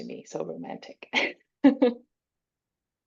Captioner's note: chuckles